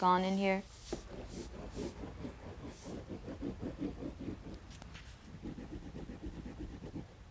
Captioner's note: scraping